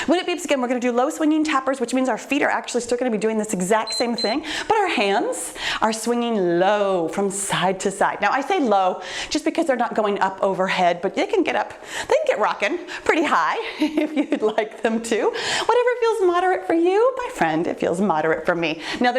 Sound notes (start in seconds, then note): 3.8 timer beeps